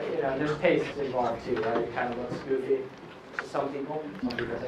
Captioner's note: laughing